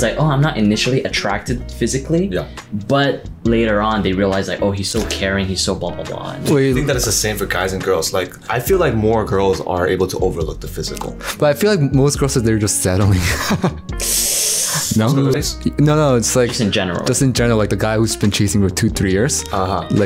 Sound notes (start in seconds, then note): 13.9 sighs